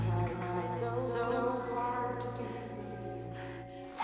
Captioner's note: ghostly whispering